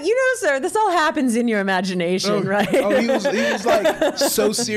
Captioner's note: laughs